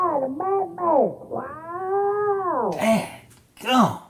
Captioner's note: muffled yelling